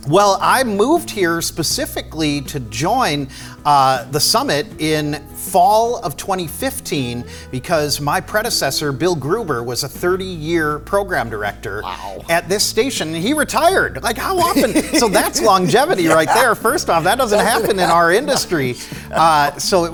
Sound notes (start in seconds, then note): 14.0 laughs